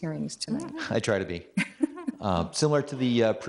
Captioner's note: everybody laughing; chuckles